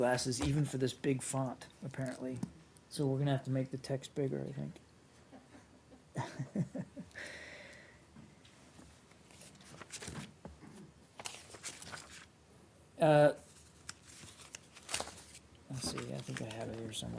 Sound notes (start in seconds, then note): 8.1 laughter